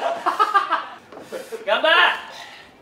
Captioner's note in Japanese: の乱れた呼吸音